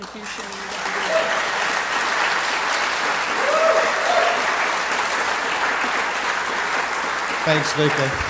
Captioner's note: applause